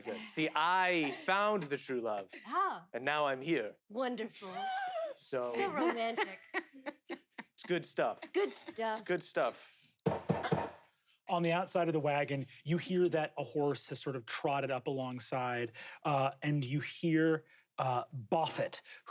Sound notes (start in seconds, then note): 10.1 knocking